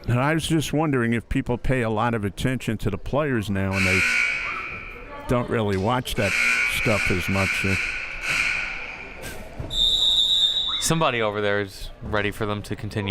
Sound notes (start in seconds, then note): 3.7 buzzer sounding; 7.8 buzzer sounding; 9.6 whistle chirping